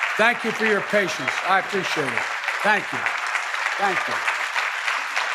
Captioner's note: applause